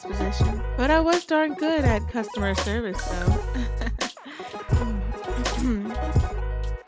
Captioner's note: laughs